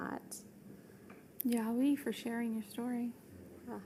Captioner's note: speaking foreign language